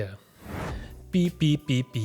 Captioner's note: transition sound effect